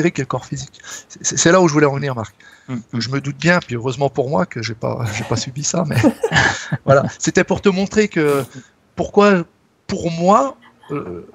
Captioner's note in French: rires